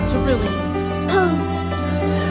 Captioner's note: sigh